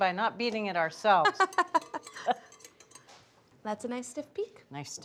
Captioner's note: laughs